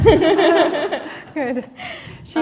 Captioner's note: laughter